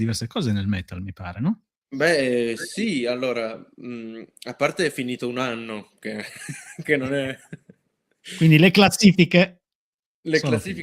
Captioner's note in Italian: risate